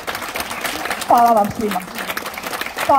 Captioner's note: applause…